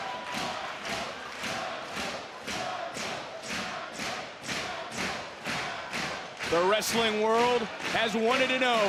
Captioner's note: audience cheering